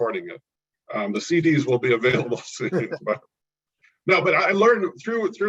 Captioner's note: both laugh